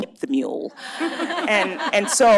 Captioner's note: laughter